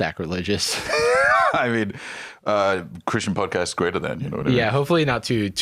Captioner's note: laughs